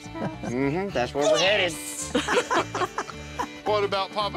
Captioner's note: laughter